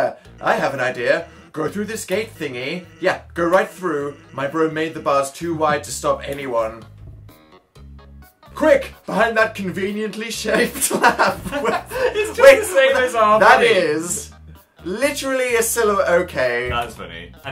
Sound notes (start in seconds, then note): 6.5 chuckles; 10.5 both laugh; 10.5 laughing